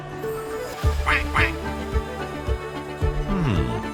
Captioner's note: quacking sounds can be heard